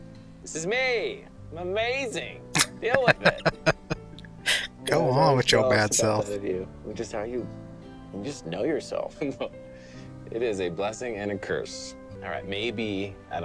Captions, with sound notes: [Laughing] Go on with your bad self.